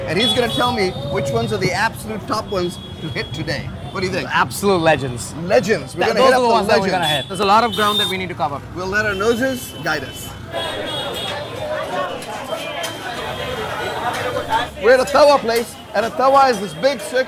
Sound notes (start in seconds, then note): 10.6 car horns honking; 10.6 people chattering